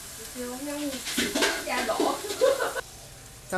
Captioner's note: falling sounds